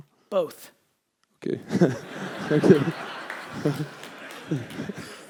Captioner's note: audience laughter